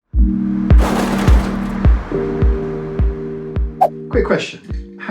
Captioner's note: bumper crunches; gentle music